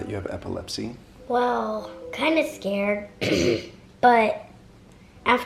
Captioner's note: clears throat